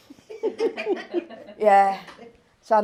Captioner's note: laughing